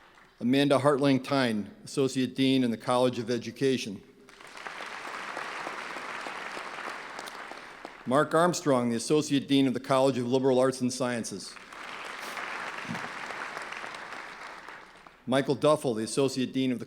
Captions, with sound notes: Amanda Haertling Thein, Associate Dean in the College of Education. (clapping) Marc Armstrong, the Associate Dean of the College of Liberal Arts and Sciences. (clapping) Michael Duffel, the Associate Dean of